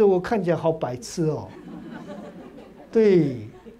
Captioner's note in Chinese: 哈哈哈